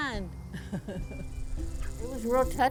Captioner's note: laughs